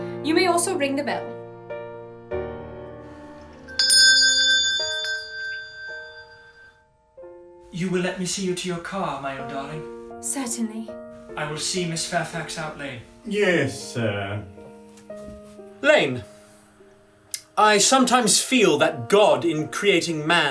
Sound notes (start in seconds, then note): 3.4 rings bell